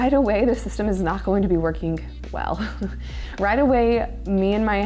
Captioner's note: laughing